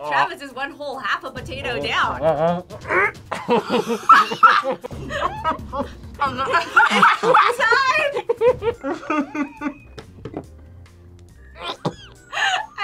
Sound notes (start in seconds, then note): 0.0 both mumbling; 2.2 gags; 2.2 both laugh; 5.0 laughs; 6.2 both laugh; 8.2 laughs; 11.5 gags